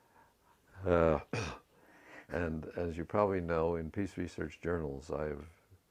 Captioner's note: cough